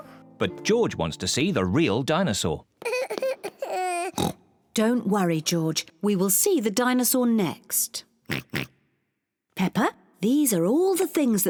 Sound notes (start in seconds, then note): 2.8 cries; 4.1 oinks; 8.3 oinks